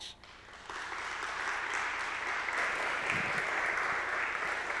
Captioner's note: audience applause